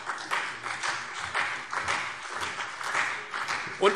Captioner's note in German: Beifall CDU und BÜNDNIS 90/DIE GRÜNEN